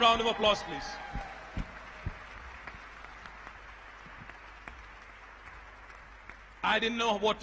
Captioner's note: applause